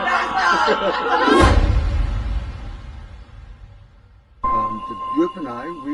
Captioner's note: group muttering and laughing